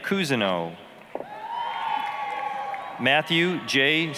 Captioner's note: applause, cheering